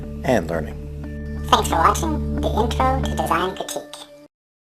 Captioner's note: computerized voice